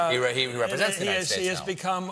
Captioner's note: laughter